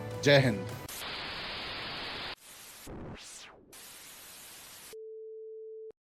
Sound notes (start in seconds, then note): 0.8 Static